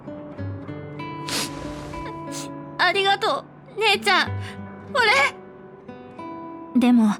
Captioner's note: sniffle